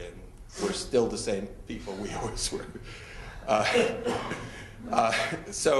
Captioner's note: laughing